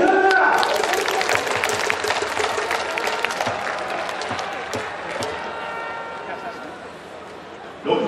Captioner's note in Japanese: 拍手･応援